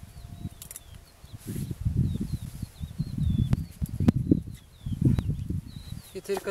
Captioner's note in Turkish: Kesme sesi ve kuş sesleri